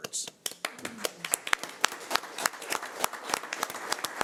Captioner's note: audience applauds